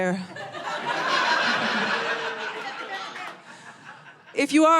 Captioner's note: audience laughing